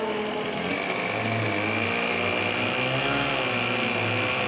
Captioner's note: engine roaring